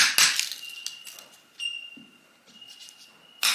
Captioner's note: bark ripping